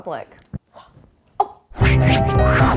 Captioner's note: gasping; upbeat piano music